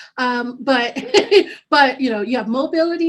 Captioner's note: laughing